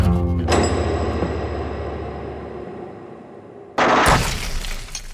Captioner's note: metal clinking; shots firing; glass breaking